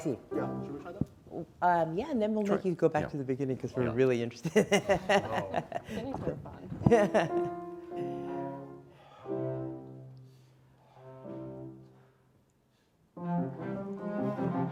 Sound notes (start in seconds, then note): 4.4 laughs; 7.0 passionate classical music